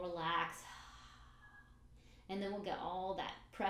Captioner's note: breathes out